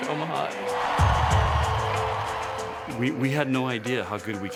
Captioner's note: crowd cheering